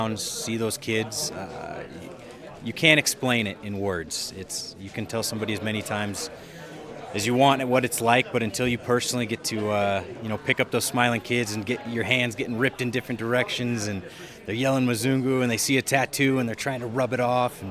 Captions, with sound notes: see those kids, you can't explain it in words. You can tell somebody as many times as you want what it's like, but until you personally get to pick up those smiling kids and get your hands getting ripped in different directions, and they're yelling (speaking in non-English), and they see a tattoo and they're trying to rub it off.